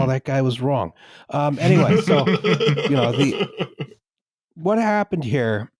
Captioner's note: laughter